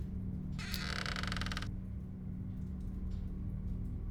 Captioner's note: door clicking; door creaking